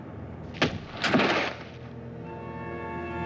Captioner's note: gun fires